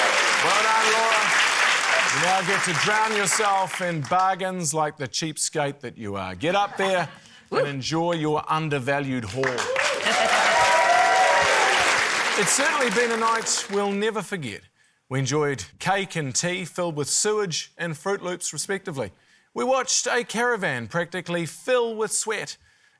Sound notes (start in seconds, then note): 0.0 cheering, applause; 9.3 cheering, applause